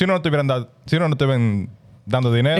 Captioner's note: speaking In Foreign Language